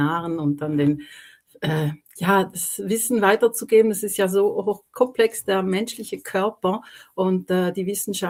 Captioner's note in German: räuspern